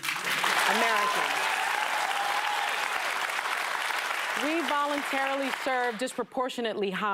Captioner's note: cheers and applause